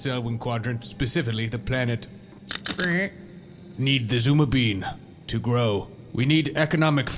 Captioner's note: clicks and grunts